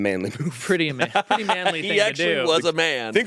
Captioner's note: laughs